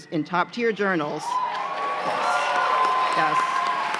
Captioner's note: cheers and applause